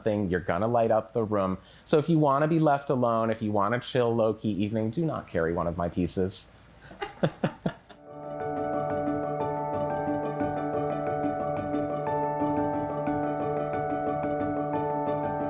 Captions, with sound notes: You're gonna light up the room. So if you wanna be left alone, if you wanna chill, low-key evening, do not carry one of my pieces. (laughs) (bright music)